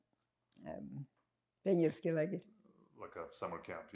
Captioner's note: russian